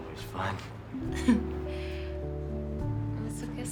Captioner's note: chuckling